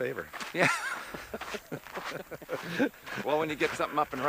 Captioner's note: laughs